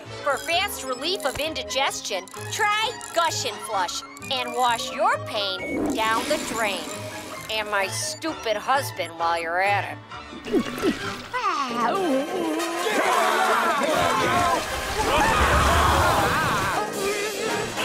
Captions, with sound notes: For fast relief of indigestion, try Gush and Flush and wash your pain down the drain. And my stupid husband while you're at it. [sighing, groaning] [arguing] [screaming] [groaning]